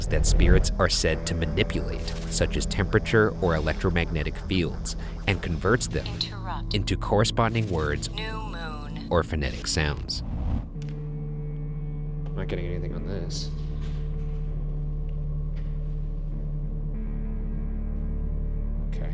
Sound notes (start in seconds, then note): 8.4 automated Voice; 17.2 slow tense music